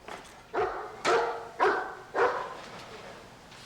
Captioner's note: dog barking